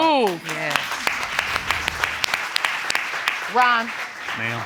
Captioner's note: applause